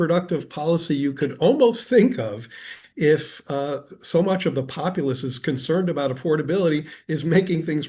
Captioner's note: laughs